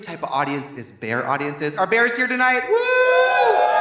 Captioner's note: Trixie cheers; audience cheering; audience applauding